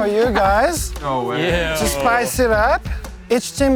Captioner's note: contestants mumbling